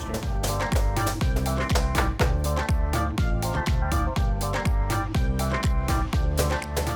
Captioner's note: knife smacking